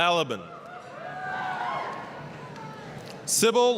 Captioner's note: applause, cheering